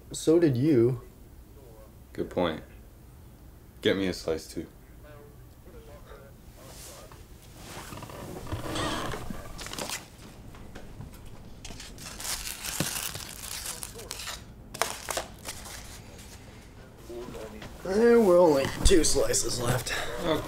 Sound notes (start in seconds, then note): 10.5 movie plays in background